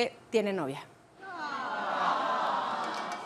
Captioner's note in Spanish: Se lamenta